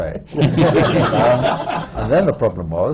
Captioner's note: laughter